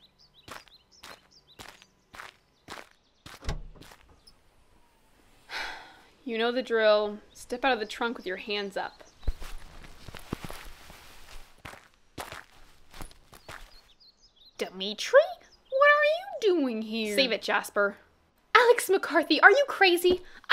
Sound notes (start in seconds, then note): 5.4 sigh; 14.4 fake surprise